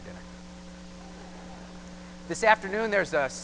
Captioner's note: laughter